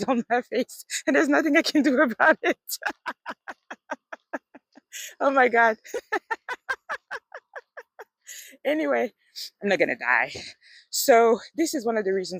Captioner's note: laughs